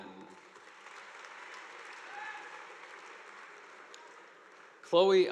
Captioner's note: audience applauding